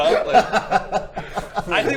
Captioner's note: laughs